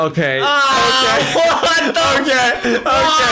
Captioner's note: laughs